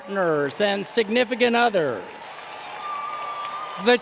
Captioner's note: applause